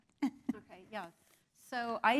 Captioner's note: laugh